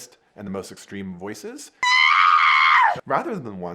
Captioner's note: actress screaming